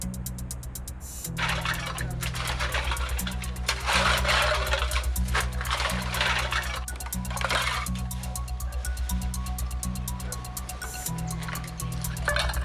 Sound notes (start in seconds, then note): 1.8 people chattering; 3.4 cans clanking